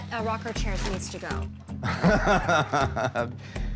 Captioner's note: laughs